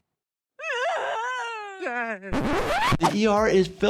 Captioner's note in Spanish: persona gritando